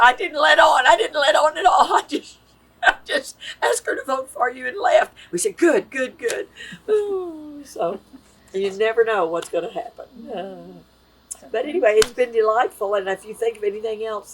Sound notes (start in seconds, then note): 7.6 laughs